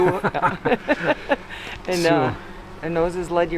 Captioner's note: all laugh